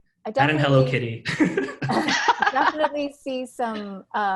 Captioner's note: laughing